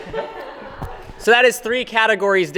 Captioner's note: all laughing